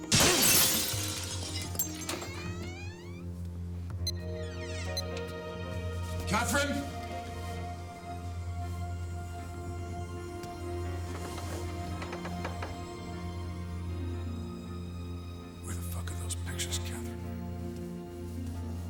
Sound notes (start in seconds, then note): 0.0 glass shatters; 4.0 alarm beeps; 8.1 slow somber music; 18.6 suspenseful music